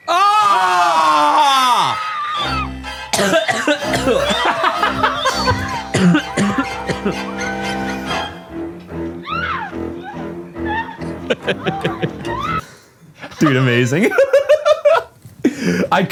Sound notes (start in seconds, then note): 0.0 screams; 2.4 coughs; 3.3 haunting music; 9.2 woman screams; 9.5 laughs; 13.1 laugh